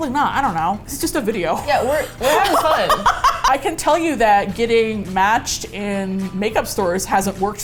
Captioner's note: laughs